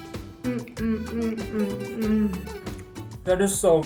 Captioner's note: hums